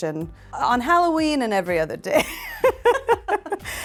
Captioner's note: laughing